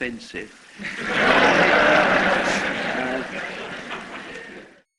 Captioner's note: laughter